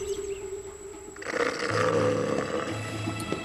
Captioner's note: snoring and growling